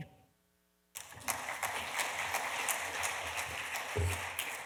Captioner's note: audience applause